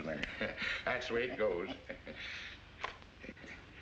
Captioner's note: chuckles